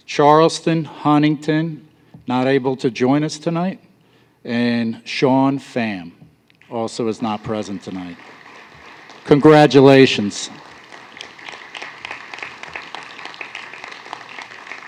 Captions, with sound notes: Charleston Huntington, not able to join us tonight, and Sean Pham also is not present tonight. Congratulations. [APPLAUSE]